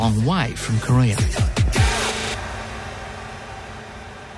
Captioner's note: all chant